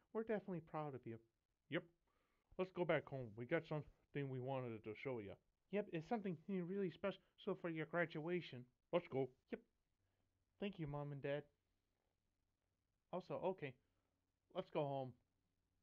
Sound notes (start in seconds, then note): none